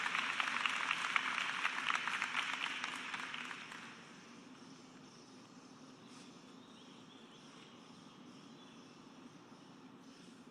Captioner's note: cheers and applause